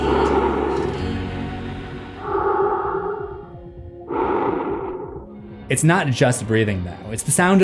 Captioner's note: masked breathing